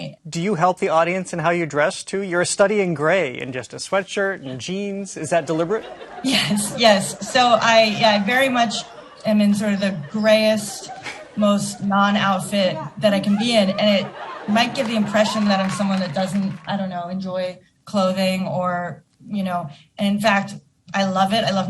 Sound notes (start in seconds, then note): 5.2 chuckling